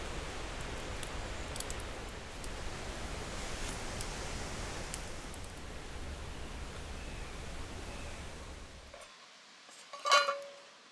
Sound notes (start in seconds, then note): 0.0 fire crackling